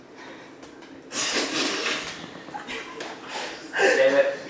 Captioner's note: laughing